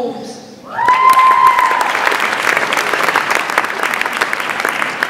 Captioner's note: audience applauds and cheers